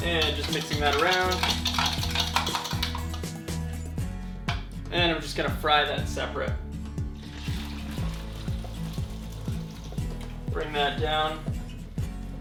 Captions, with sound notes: and just mixing that around. (rapid clicking against glass) And we're just gonna fry that separate. (light sizzling) Bring that down